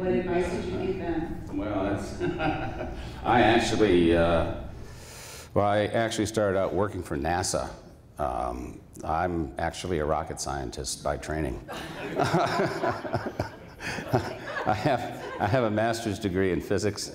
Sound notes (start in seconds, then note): 2.0 laughs; 11.6 laughter